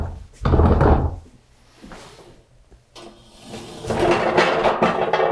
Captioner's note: furniture screeches